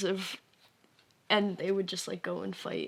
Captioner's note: none